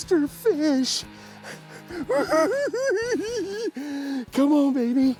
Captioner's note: giggles